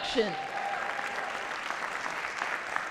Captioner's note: applause